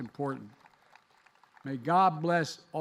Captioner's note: applause